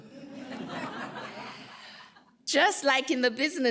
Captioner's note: laughter